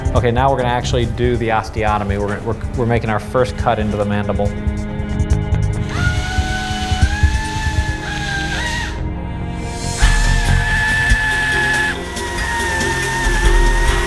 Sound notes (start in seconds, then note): 5.8 drill whirling